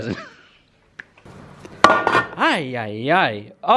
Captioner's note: laughing